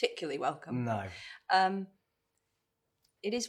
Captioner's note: in normal voice